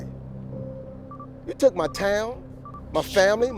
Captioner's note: bomb beeping